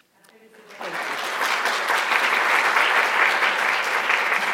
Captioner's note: applause